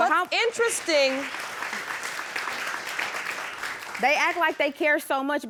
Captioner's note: audience applauding